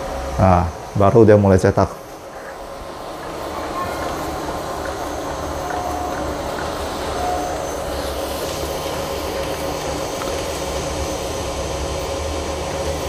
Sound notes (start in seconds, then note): 2.6 printer machine noise